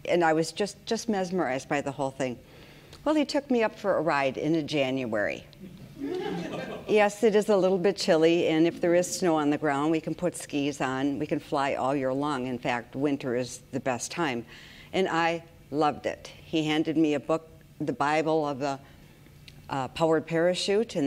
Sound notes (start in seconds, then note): 6.0 audience laughs